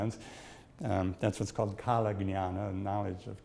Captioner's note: speaks in Sanskrit